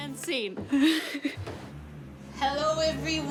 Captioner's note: laughing